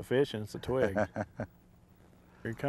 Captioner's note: laughter